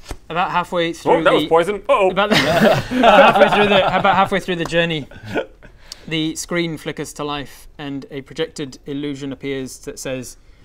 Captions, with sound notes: About halfway through the Woop, that was poison, uh oh! *Celebratory giggles* Halfway through the, about halfway through the journey the screen flickers to life and a projected illusion appears that says